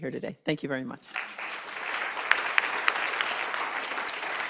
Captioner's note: applauding